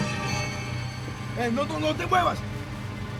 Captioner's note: speaking spanish